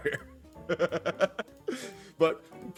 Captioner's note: laugh